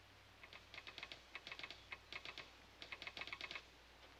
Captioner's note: machine clicking